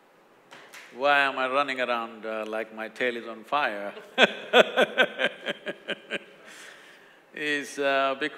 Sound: laughs

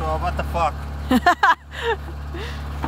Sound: car running; laughs

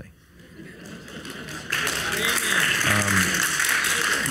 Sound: audience applauds

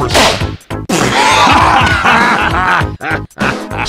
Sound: Big LOL from Francis & Heavy

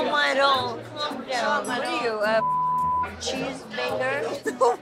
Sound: beep

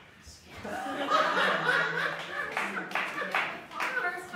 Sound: laughter

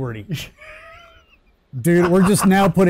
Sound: laughing

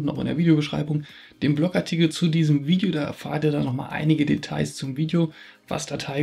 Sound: German

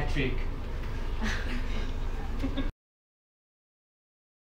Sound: everyone chuckling

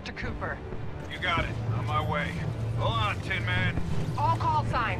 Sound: radio

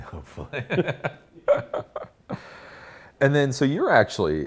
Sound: laughs

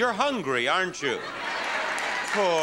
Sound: audience cheering

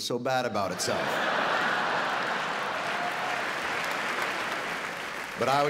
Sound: audience laughing; audience applauding

